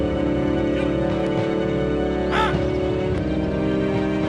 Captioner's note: soldier shouts